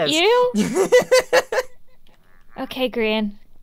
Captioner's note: laughs